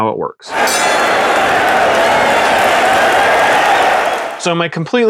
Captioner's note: sports bell dings and crowd cheers